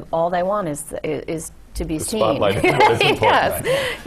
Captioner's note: laugh